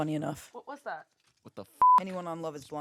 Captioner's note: beep